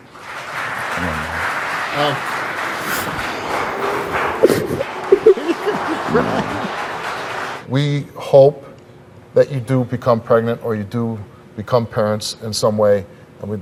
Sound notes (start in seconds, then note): 0.0 audience applauds; 4.3 sobbing